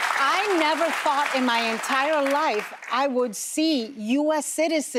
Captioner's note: applause